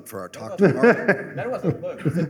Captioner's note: laughter